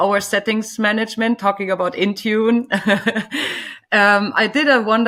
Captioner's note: laughing